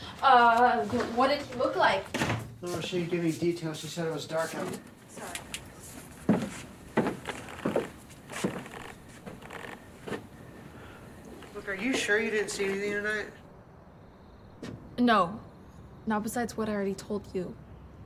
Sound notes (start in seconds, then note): 5.1 footsteps